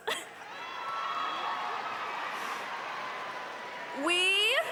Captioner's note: audience applauding